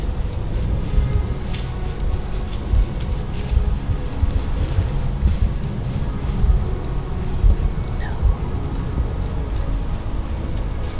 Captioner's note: soft music; sound of walking, soft music